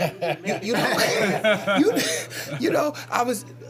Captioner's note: laughter